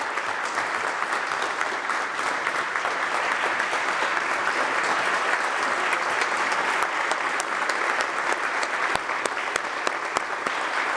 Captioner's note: applause